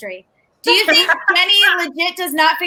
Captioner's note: everyone laughs